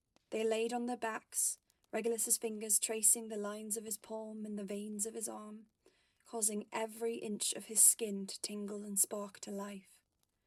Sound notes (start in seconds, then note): none